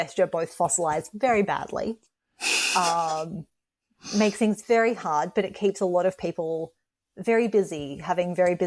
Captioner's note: laughs